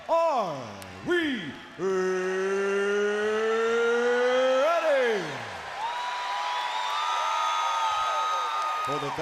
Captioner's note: crowd cheering